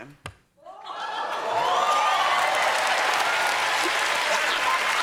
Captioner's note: cheers and applause